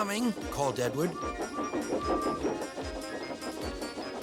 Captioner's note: toots